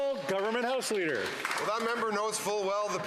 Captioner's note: some Applause